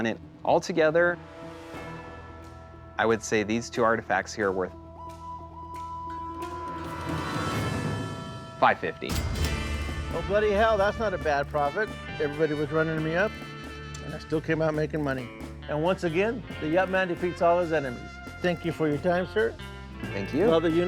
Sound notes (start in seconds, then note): 4.7 suspenseful music; 6.3 cash register dings